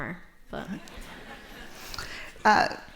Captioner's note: laughter